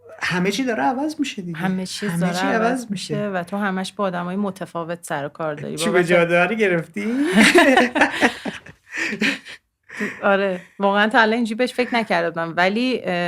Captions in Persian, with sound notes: - همه‌چی داره عوض می‌شه دیگه - همه‌چیز داره عوض می‌شه - همه‌چی عوض می‌شه و تو همه‌ش با آدم‌های متفاوت سروکار داری چوب جادوئه رو گرفتی؟ (خنده) - (خنده) آره. واقعاً تا الان این‌جوری بهش فکر نکرده بودم ولی